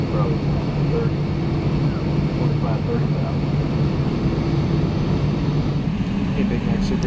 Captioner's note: captain speaking on intercom